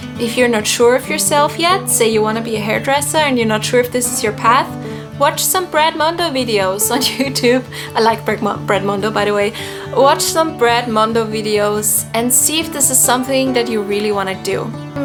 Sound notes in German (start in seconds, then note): 6.6 lacht